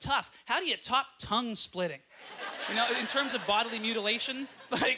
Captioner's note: audience laughter